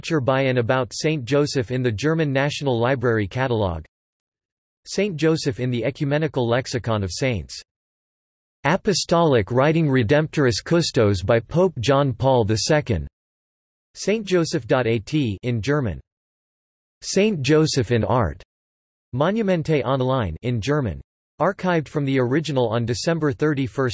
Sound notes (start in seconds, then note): 15.4 in German; 20.0 in German